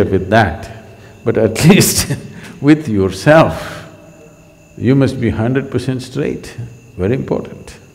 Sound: laughs

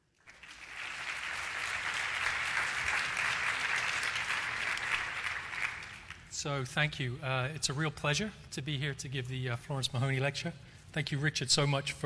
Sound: applause

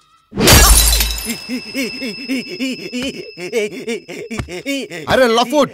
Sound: hysterics

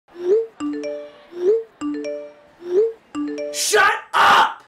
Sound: text message alert sounds

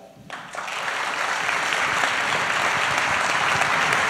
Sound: applause

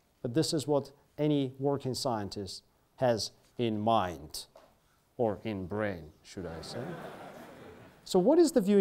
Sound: students laugh

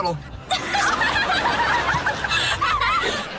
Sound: laughing

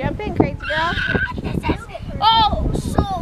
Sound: boy screeches

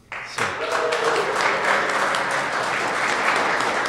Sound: applause

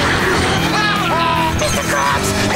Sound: laughing

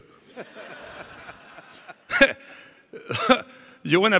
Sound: audience laughing

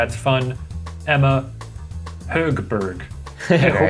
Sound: laughing

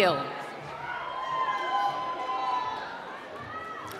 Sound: applause

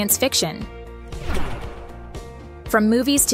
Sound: sci-fi sound effect

